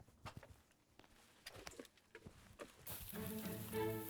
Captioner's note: leaves rustling; violin music starts